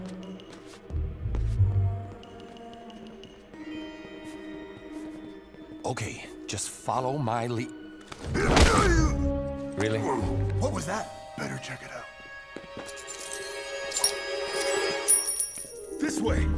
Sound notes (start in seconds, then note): 8.9 loud grunt; 15.4 coins clinking